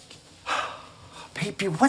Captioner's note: Luigi sighs